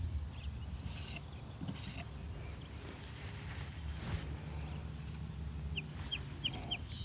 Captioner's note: birds chirping